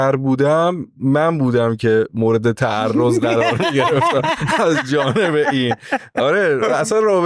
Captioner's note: laughs